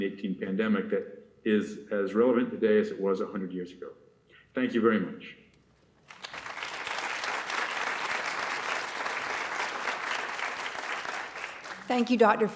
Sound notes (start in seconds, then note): 6.0 applause